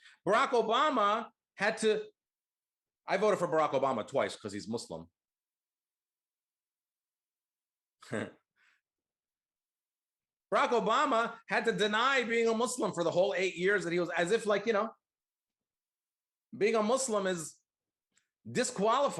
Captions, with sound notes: Barack Obama had to, I voted for Barack Obama twice 'cause he's Muslim. (chuckles) Barack Obama had to deny being a Muslim for the whole eight years that he was, as if being a Muslim is disqualifying.